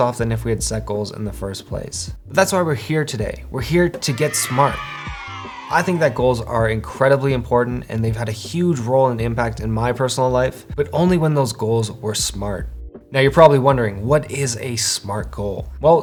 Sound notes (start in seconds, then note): 4.0 voices cheering